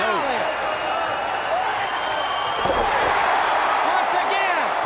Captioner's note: crowd cheering